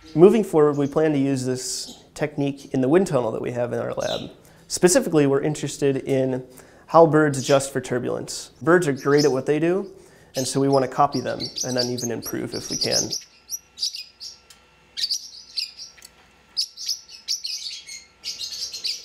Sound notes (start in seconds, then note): 13.3 bird chirping